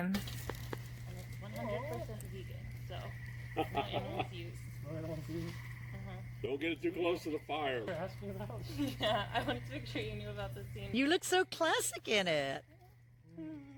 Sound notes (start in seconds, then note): 3.5 chuckles; 12.9 laughter